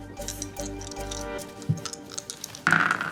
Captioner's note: dice clattering